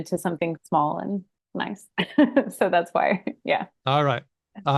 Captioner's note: laughs